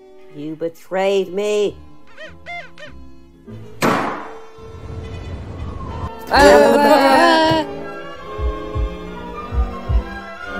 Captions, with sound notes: You betrayed me! (Door Opens) (Crowd Shouting)